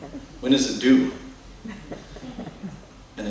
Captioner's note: laughter